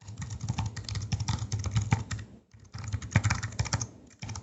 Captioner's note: keyboard taps